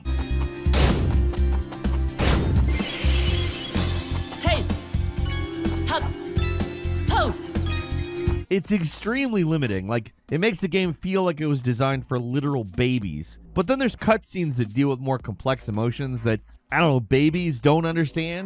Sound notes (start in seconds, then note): 2.7 game graphics chimes; 6.7 game graphics chimes